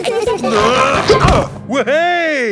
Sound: all giggling; grunting

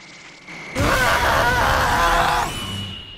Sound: TRUNKS screams

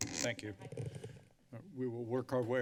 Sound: mic crackling

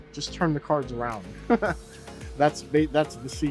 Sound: laughs

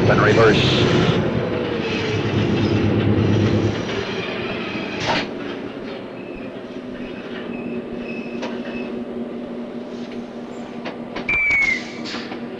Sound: sound of the train moving

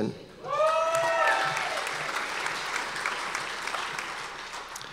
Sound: audience applause

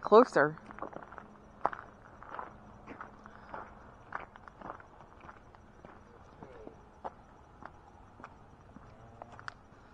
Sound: footsteps

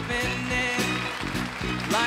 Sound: audience claps

